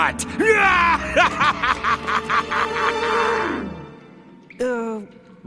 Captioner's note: laughing maniacally